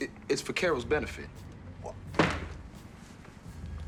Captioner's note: stamps foot